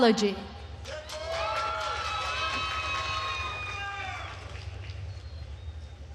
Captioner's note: attendees cheering and applauding